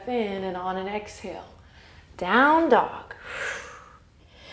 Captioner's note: exhale